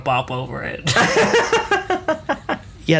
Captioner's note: laughs